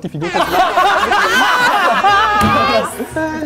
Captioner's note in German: Gelächter